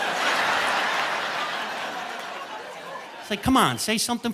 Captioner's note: audience laughing